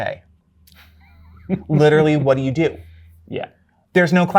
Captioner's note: guy chuckles